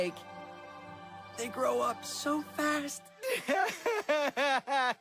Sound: cries

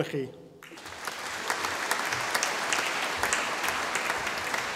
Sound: audience applauding

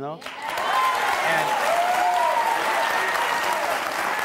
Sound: audience cheers

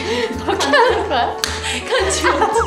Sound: slap!

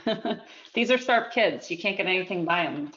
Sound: chuckles

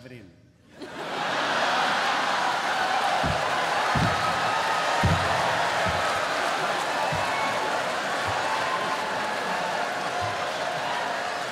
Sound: laughter

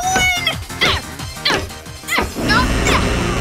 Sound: both groaning; buzzing

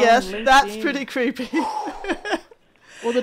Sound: laughs

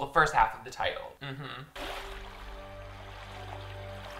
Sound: water splashing; suspense music

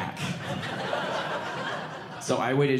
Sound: audience laughing

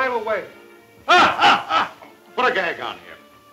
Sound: Morgan laughs loudly

